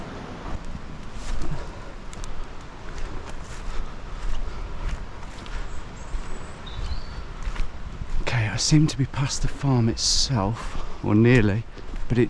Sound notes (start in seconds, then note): 2.9 breathing heavily